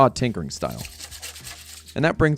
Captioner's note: scrubbing noises